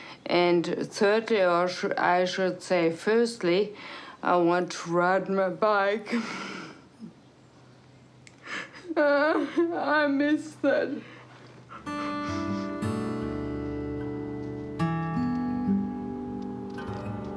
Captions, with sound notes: And thirty— or I should say, firstly, I want to ride my bike. (EXHALES) (SOBS) I miss that. (SNIFFLES) THOUGHTFUL ACOUSTIC GUITAR MUSIC